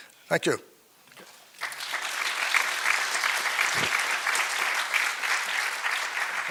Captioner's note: applause